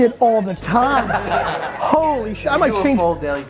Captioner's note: group laughter